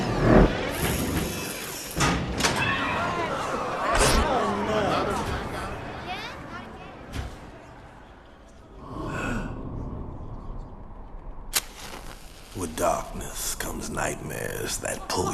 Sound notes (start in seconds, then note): 2.9 people exclaiming; 8.7 sighs